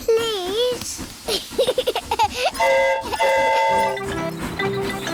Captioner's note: giggles; train horn toots